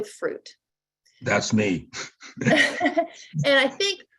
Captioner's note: laughs